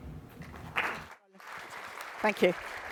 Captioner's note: applause